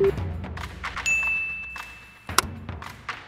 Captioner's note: timer beeping; bell dings; snappy music